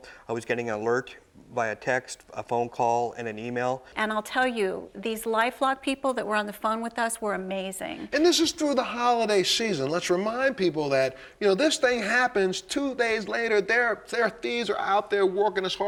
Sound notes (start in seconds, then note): none